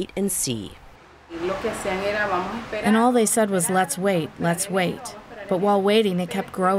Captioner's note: through translator